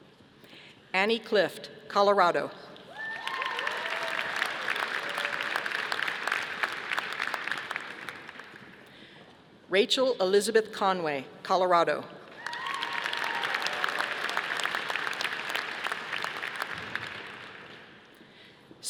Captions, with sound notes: Annie Clift, Colorado. (audience applauding) Rachel Elizabeth Conway, Colorado. (audience applauding)